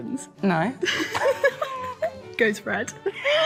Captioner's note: laughing